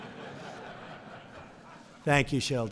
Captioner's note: laughter